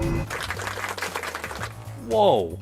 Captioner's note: crowd clapping